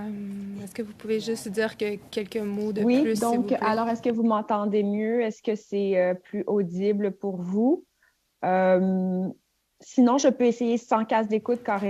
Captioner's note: speaking French